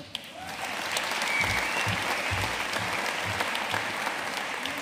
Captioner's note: audience applauding